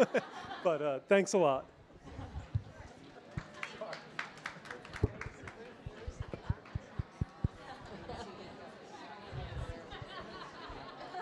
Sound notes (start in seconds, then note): 0.0 audience laughing; 3.4 audience applauding; 5.0 people chattering